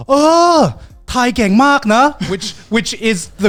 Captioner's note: speaking in foreign language